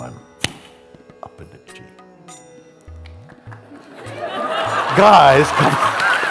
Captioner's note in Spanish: risas y aplausos